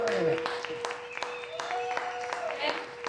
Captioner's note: cheering